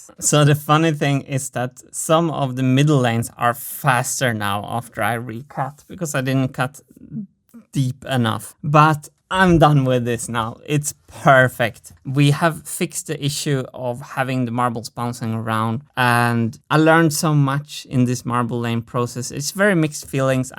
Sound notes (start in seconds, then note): none